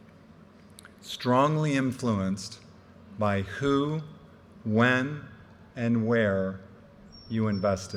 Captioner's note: none